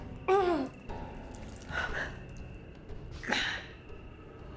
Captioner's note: Claire groans